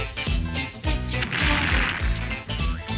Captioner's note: explosion